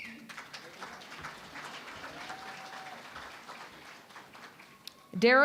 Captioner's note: applause